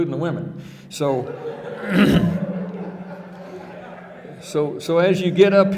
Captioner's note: audience laughing